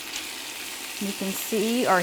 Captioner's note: ingredients sizzle